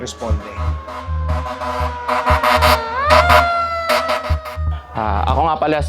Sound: fire truck horn honking

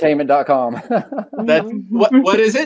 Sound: chuckles

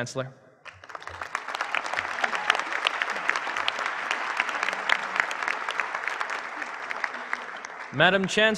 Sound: applause

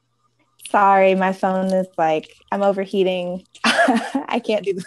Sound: laughs

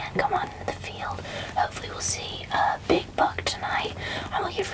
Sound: whispering

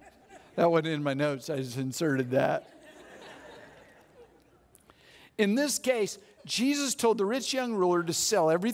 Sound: audience laughs; audience laughs

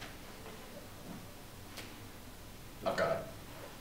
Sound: snaps fingers

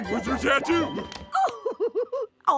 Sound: chuckles

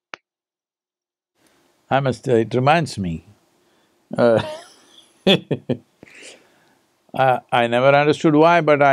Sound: laughs

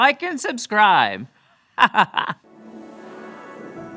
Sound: laughing

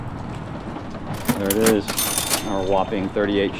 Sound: cash register bell rings

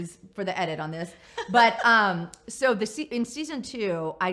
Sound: laughs

